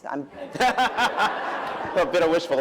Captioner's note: laughter